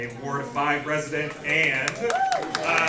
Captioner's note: applause